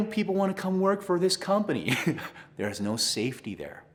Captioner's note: laughs